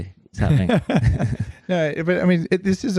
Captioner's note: laughing